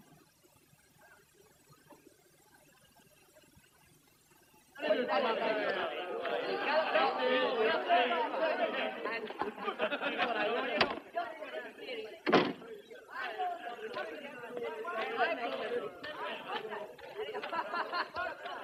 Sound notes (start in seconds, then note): 5.2 chattering; 12.2 door opens, closes; 14.6 indistinct chatter